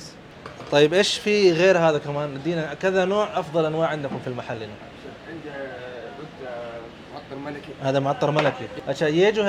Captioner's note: talking in Arabic